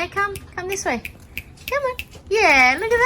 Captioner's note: clicks fingers